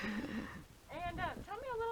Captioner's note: laughing; interviewer 1 laughing